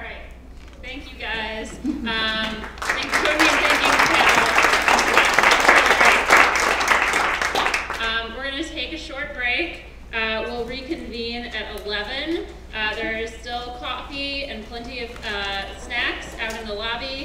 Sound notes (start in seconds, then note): 0.0 laugh; 2.2 applause